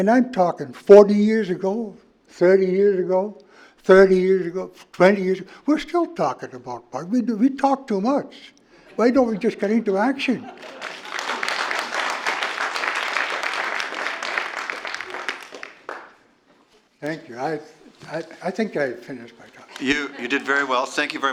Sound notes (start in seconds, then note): 16.7 applause